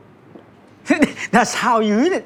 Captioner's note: gulps